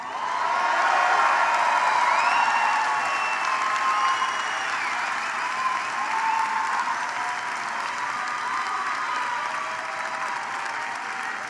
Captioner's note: applause